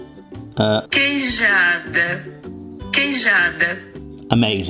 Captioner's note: phone Voice